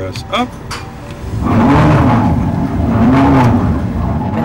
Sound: roaring sound

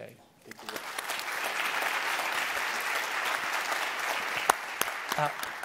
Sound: applause

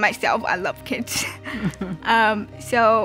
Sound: chuckles

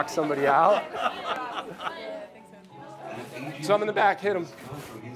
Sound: laughing

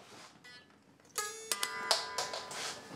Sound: drops pick

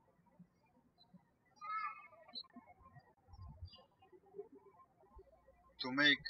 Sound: birds chirping

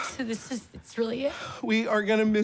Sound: voice breaking

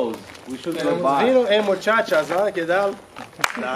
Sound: in Spanish

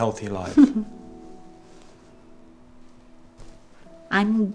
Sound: chuckles

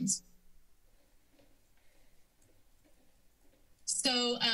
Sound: silence

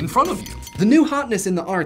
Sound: ding, ding, ding

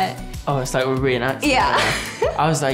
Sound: laughs

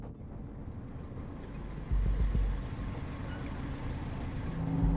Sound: engine roaring

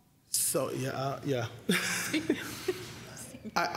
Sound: giggling

